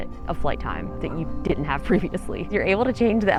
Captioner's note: chuckles